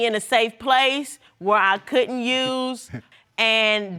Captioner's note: chuckles